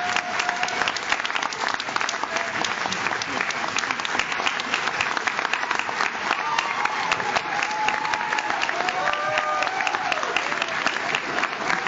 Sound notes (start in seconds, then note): 3.4 audience cheers; 3.4 audience claps